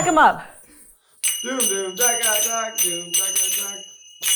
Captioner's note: crew member chuckling; zappers clacking